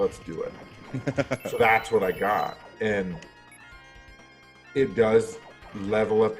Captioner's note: laugh